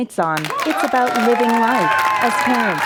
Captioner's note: applause